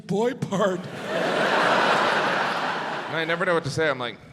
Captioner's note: audience laughs